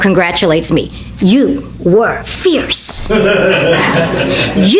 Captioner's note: audience laughter